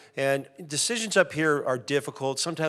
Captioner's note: none